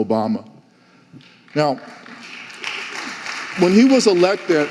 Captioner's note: audience applauding